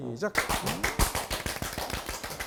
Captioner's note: sudden health clap